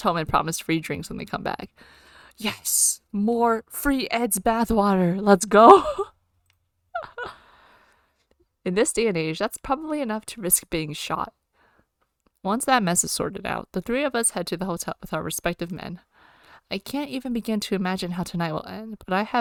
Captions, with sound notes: Yes! More- free Ed's bathwater, let's go! [laughs]